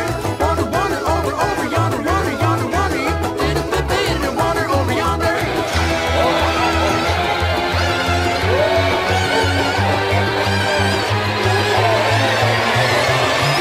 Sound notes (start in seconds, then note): 5.4 Bowser laughing in the background